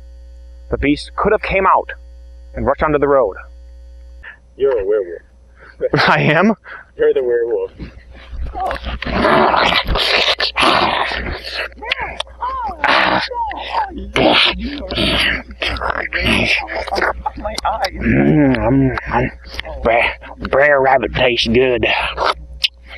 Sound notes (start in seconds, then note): 10.2 grunts, slobbers; 15.9 as the lady, falsetto